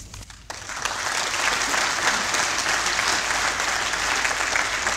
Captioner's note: applause